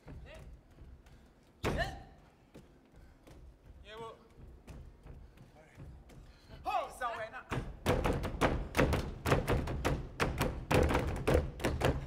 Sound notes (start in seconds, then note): 2.9 feet stomping; 6.9 speaking language other than English; 7.0 drum beating and feet stomping